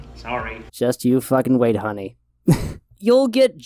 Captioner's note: laughs